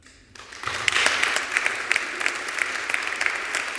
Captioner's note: applause